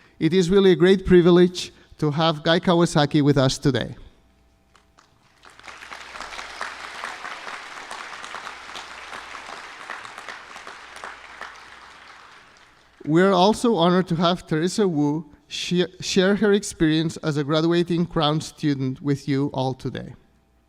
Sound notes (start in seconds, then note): 4.7 applause